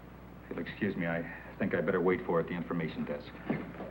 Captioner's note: none